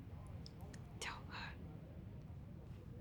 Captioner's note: Hawa whispers